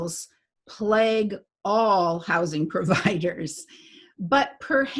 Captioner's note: chuckles